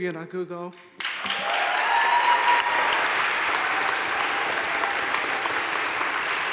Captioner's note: audience cheering and applauding